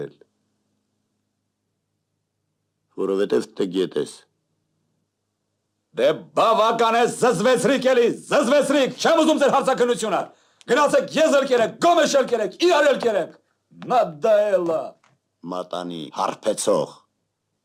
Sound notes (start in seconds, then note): 14.8 in Russian